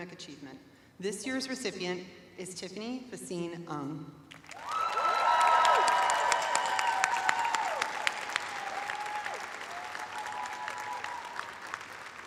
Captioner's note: cheers and applause